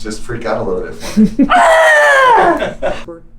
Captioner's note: screams